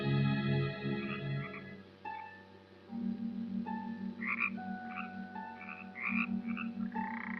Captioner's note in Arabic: نعيق الضفادع